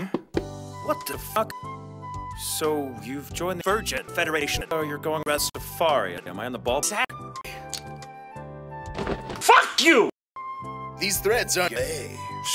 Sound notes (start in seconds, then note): none